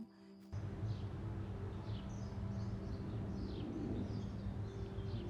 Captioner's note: birds chirping